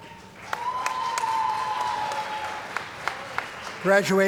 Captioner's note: applause & Cheering